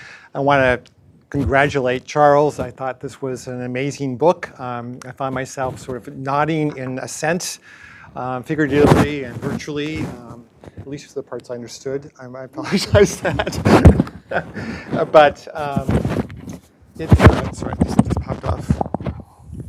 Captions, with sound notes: I want to congratulate Charles. I thought this was an amazing book. I found myself sort of nodding in assent, figuratively and virtually, at least for the parts I understood. I apologize for that. (laughs) But it— (microphone thuds) Sorry, this just popped off.